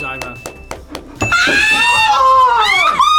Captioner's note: laughs; screams